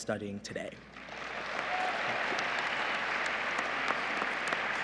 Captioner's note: applause